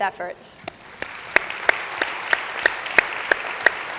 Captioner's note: all clapping